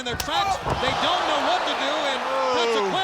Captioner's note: blows thudding